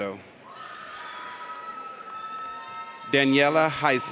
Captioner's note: audience cheers